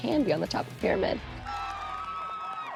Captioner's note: cheering